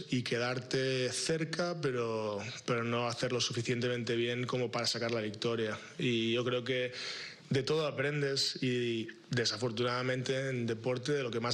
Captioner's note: responding in spanish